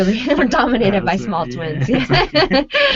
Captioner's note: laughing